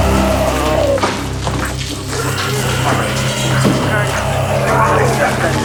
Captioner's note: zombies growling; dramatic music